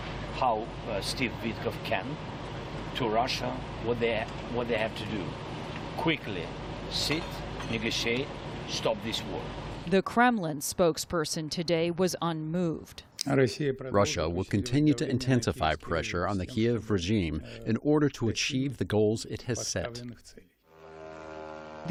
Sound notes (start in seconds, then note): 14.3 through translator